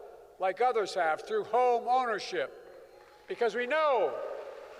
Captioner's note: applause